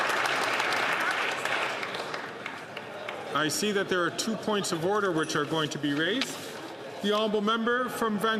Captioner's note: applause